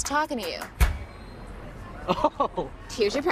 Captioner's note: man laughing